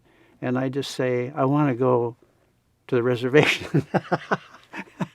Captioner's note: laughs